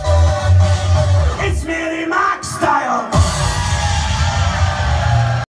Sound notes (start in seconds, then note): 3.3 cheering & applause